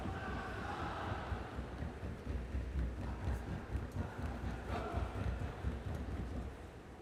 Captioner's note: students pounding rhythmically and chanting